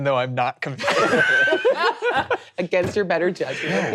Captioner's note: all laughing